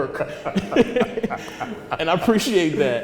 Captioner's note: laughter